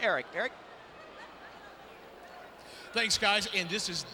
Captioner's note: spectators chattering